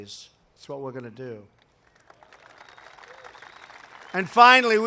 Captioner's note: applause